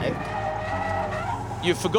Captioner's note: tires screeching